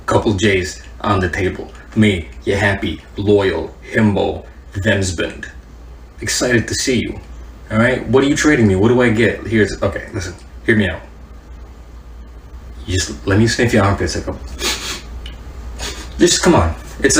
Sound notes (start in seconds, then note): 14.5 sniff; 14.5 sniff sniff